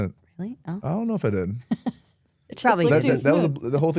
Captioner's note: host laughs